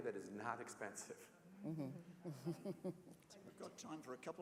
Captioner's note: laugh